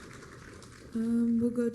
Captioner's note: applause